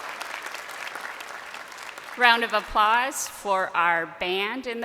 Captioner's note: crowd cheering